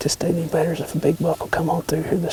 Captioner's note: whispering